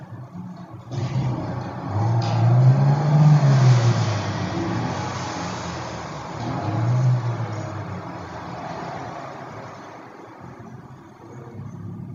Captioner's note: engine revving, tires spinning--no dialogue